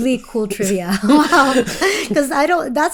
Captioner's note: both laughing